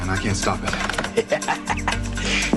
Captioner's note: Смее се